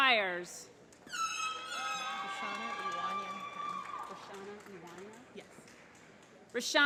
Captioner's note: applause